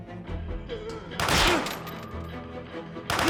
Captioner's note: rapid gunfire